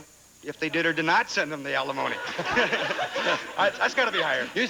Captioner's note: audience laughing